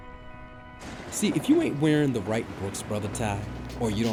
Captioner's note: voiceover